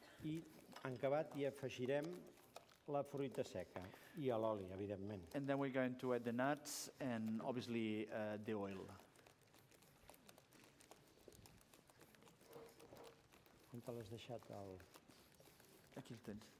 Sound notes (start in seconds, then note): 1.3 non-english speech; 14.6 non-english speech